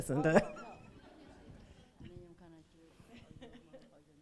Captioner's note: laughs